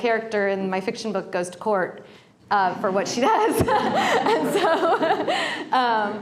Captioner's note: laughter